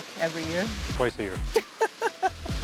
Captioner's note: laughing